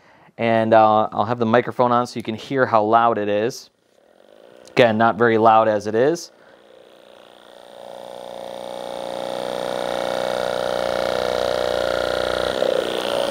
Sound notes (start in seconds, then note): 4.0 Hypervolt begins vibrating